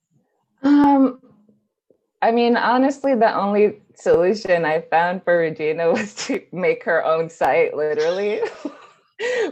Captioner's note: laughs